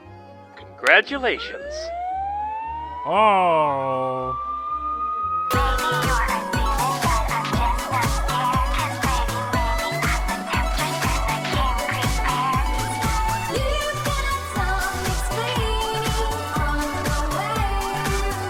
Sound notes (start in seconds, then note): 2.6 siren noises